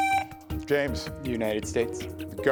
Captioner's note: buzzer buzzing